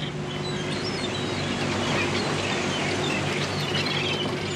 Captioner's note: boat motor humming